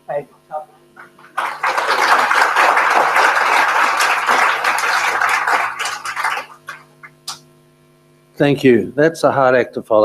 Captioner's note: applause